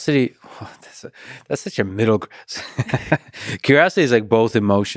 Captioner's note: laughs